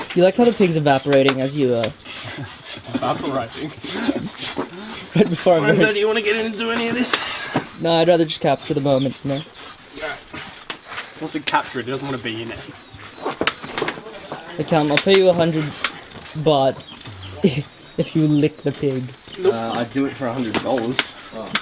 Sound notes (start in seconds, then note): 2.2 chuckles; 6.9 sighs; 17.0 chuckles